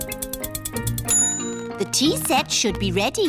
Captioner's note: bell dings